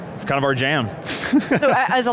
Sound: laughs

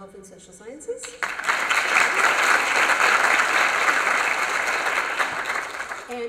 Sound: applause

